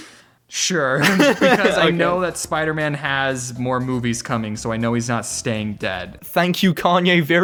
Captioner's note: laughs